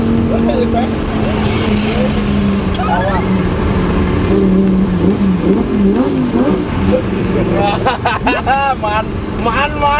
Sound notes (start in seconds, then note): 3.5 engine rumbling; 7.4 laughs